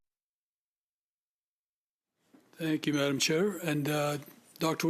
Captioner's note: speaking French